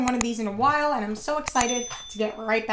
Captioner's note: dinging